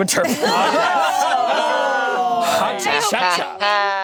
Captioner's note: group laughing and jeering; laughing